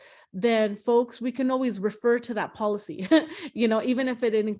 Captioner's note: chuckles